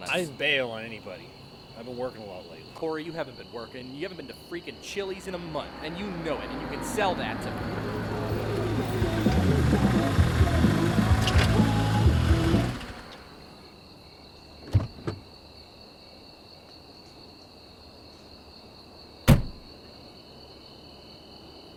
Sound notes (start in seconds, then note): 7.6 car approaches, music blares; 12.8 engine stops